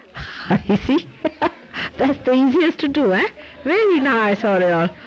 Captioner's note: Shri Mataji laughs